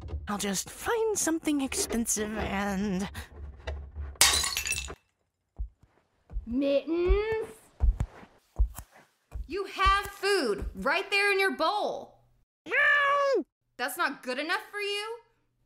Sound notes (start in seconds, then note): 4.2 glass shatters; 8.3 footsteps approach